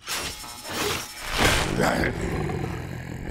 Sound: growling

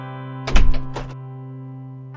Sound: door opens

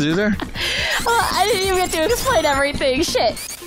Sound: laughing

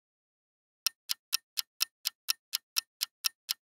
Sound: clock ticking

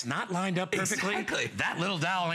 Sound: laughter

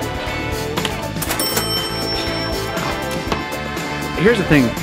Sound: cash register dinging

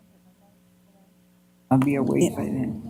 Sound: audio drops

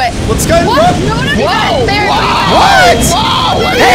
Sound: panicked shouting; fire alarm rings

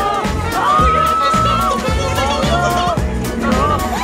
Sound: shouting

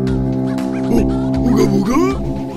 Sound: monkey noise

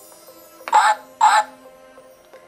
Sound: duck Sound

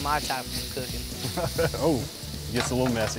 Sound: chef laughs

